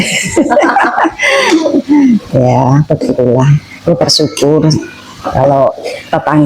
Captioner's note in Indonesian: tertawa